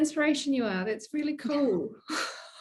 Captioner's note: laughing